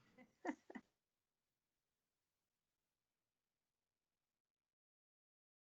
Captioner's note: laughs